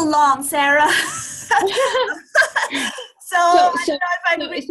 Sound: laughs

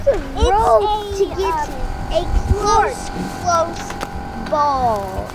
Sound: children yelling

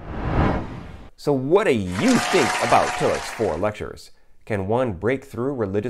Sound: applause

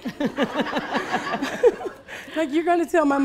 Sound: laughing

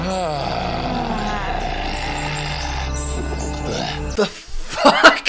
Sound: rhino man sighing

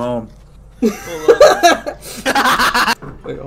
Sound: laughing

